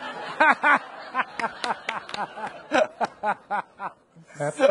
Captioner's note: people laughing; laughing and clapping